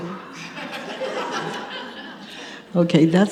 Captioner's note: audience laughs